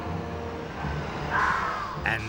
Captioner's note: screeching